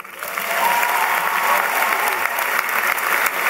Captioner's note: applause